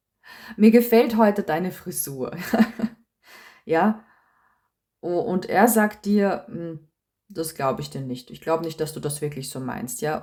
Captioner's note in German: gelächter